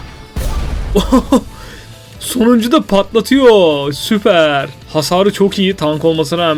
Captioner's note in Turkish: kahkaha